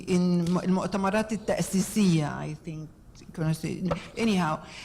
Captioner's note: speaking in foreign language